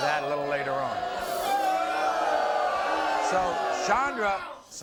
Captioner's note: audience boo's